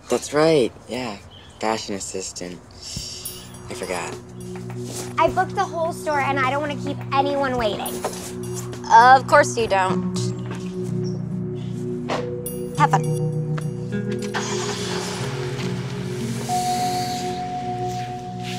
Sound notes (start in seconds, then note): 14.2 engine turns over; 16.5 sighs